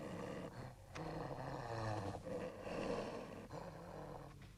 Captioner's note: dog growling